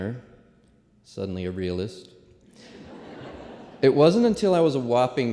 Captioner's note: laughter